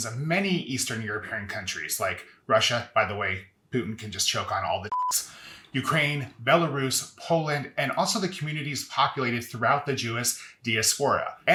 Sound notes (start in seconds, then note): 4.9 beep